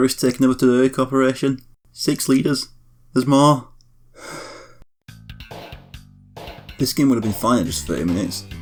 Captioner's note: sigh